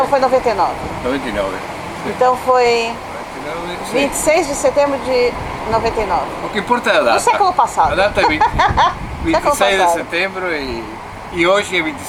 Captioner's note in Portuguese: risos